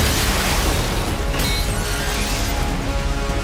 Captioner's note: metallic squealing and grinding